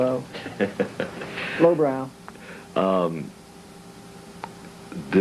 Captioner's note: laughs